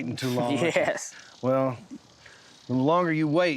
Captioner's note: chuckling